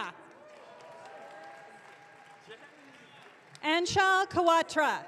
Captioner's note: audience cheering